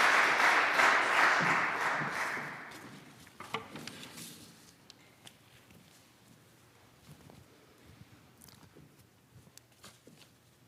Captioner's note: applause